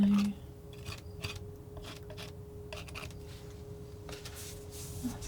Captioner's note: scraping